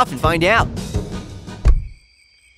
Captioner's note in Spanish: pop